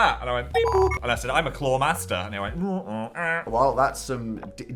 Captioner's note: mimics machine